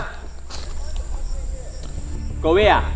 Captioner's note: shouts from afar